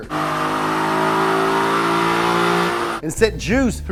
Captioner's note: engine revving